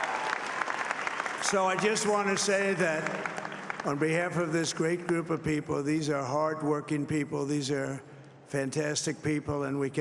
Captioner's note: cheering and applause